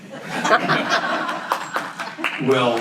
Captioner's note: audience laughs